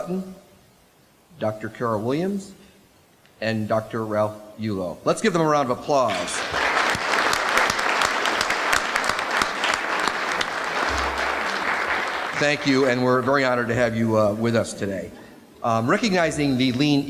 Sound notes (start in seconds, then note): 11.9 applause